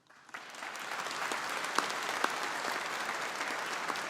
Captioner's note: audience applauding